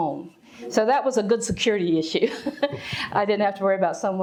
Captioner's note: chuckles